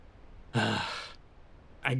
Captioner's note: sigh